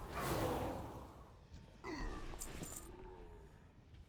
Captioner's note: grunt